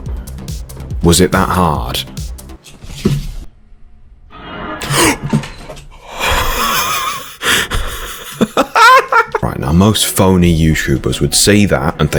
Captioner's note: gasp; joker noise